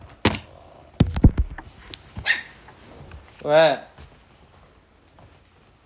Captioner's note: tiny bark